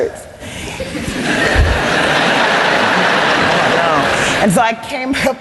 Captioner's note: laughter